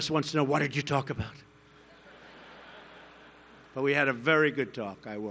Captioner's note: laughter